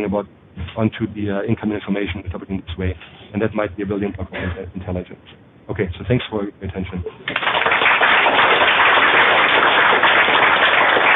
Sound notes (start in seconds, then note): 7.2 applause